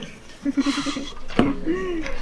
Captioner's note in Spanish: Risas